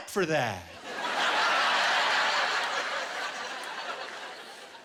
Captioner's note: laughter